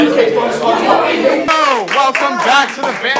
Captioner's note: clapping